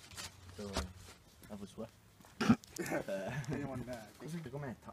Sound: laughing

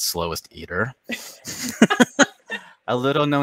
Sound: both laughing

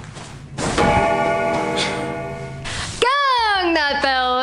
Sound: bell gangs

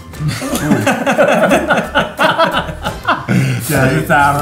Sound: laughter

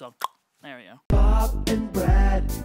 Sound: clicks his tongue

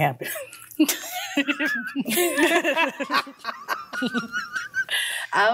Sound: both laugh

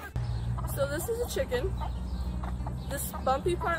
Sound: chickens clucking

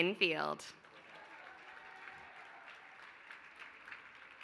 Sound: applause

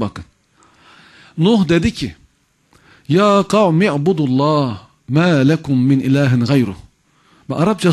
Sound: reciting the verse

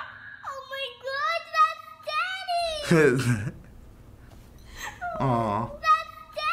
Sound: laughs

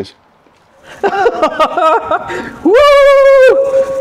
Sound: laughing

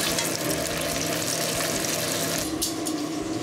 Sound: exhaust fan running; sizzling

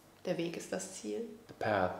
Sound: speaking German

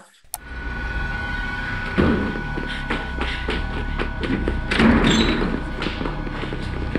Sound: dramatic music; door slams

